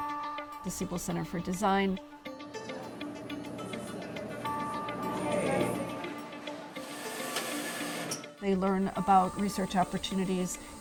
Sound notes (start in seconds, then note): 6.7 machine printing